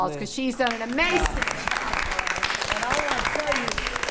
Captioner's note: attendees applauding